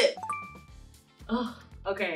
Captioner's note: notification chiming